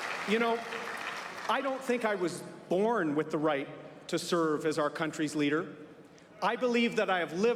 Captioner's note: applause